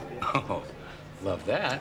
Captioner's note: chuckling